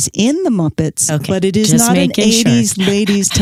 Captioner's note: laughs